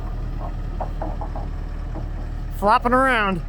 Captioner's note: wood clanking